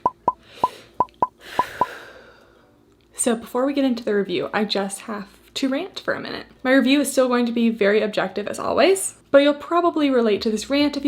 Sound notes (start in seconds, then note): 1.0 beeping; 1.4 sighs